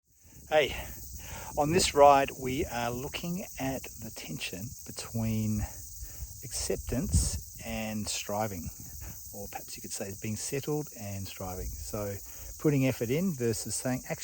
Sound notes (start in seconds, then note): 0.3 insects chirping